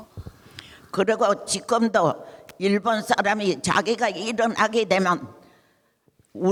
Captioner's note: speaking in foreign language